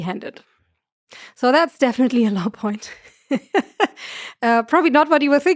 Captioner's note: laughs